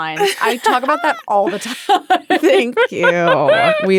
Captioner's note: laughing